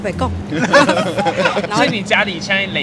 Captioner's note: laughs in Hokkien